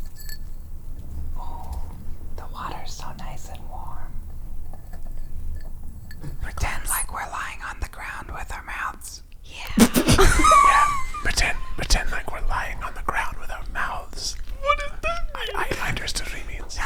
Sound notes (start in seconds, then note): 4.7 plastic rubbing on glass; 9.7 laughing